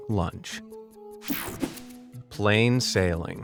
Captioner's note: slide whooshes